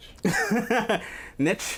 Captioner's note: laughs